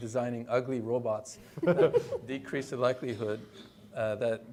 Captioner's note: attendees laughing